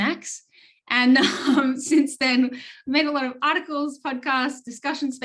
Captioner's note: laughs